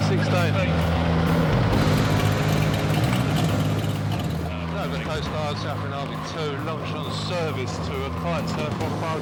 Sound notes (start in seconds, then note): 0.1 radio chatter; 1.5 tense music; 5.3 radio chatter